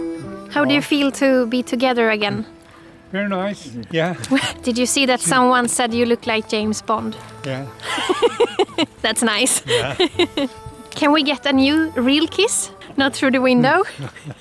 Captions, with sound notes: How do you feel to be together again? Very nice, yeah. Did you see that someone said that you looked like James Bond? Yeah. [LAUGHTER] That's nice [LAUGHTER] Can we get a new, real kiss? Not through the window?